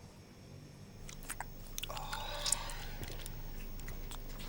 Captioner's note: chewing